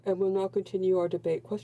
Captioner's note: speaking in french